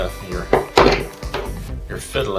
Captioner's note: bang noise